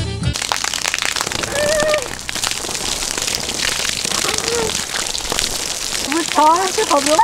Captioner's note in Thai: เสียงฝน